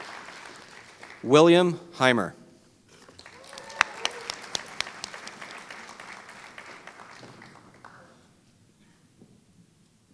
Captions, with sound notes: William Hymer [Applause]